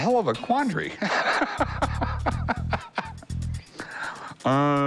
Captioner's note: laughs